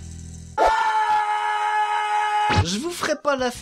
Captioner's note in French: cri